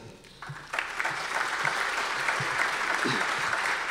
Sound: audience applause

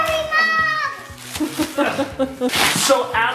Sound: screams; mom laughs

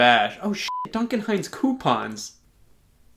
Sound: beep

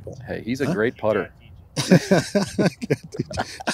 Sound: laughter

